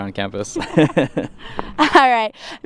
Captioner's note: laughter